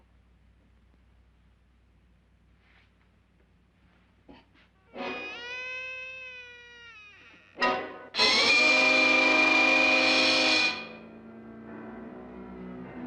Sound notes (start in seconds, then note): 4.9 door squeaks; 9.3 intense music